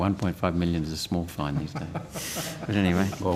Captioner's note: laughter